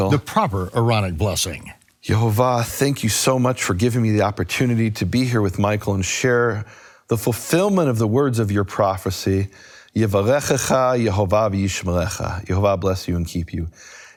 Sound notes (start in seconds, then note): 10.0 speaking foreign language